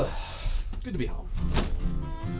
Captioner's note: sigh